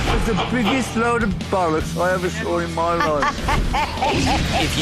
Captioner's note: Sharon laughs